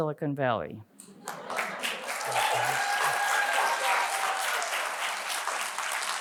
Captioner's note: audience cheering and applauding